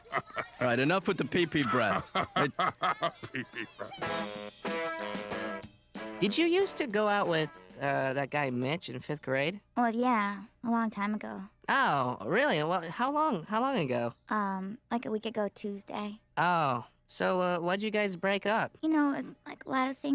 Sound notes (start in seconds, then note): 0.2 guffawing; 3.1 laughing